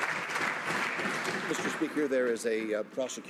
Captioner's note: some Applause